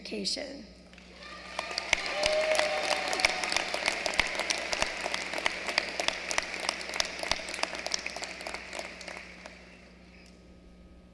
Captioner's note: applause